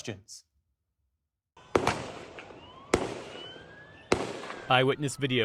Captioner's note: gunshots